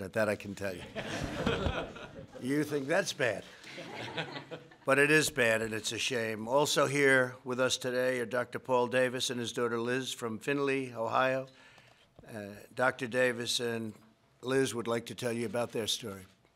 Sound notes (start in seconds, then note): 0.8 laughter